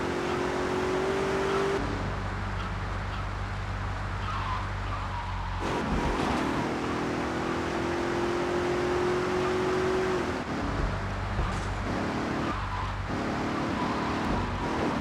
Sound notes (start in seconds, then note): 2.9 muffled yelling